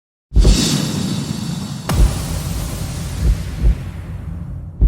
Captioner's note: dramatic sounds